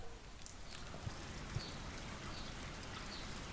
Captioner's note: noise of rain